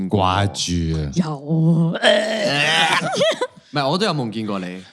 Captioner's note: laughs